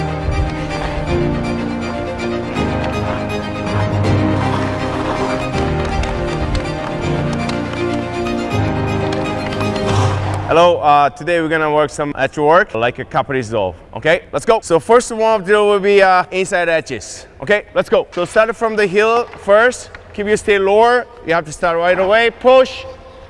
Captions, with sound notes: (dramatic orchestral music) (skates scraping) (hockey stick tapping) - Hello, today we're gonna work some edge work like Kaprizov. Okay, let's go! So warm-up drill will be inside edges. Okay, let's go! So start it from the heel first. Keep your body lower. You have to start right away. Push.